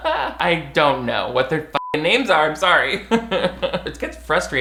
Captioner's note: beep